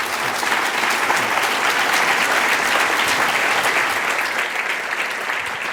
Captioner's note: applause